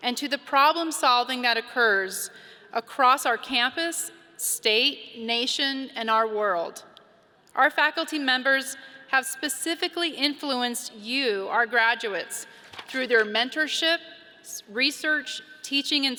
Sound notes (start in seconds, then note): none